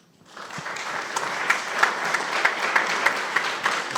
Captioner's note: audience applauding